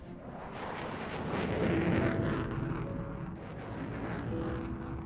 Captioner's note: aircraft engine roaring